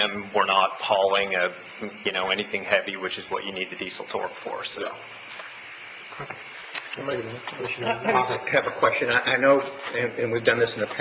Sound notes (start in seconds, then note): 6.7 commissioners chatting